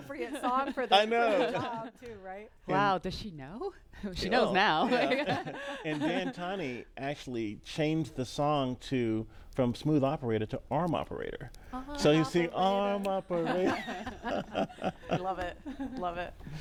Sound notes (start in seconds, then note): 8.2 laughter